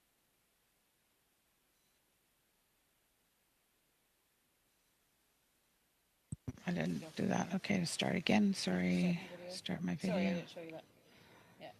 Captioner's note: silence